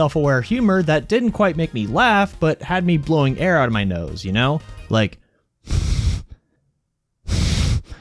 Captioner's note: nose-blowing